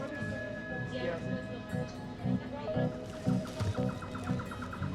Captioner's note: people chatter